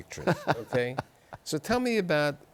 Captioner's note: laughter